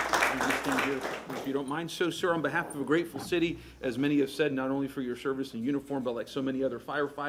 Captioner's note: applause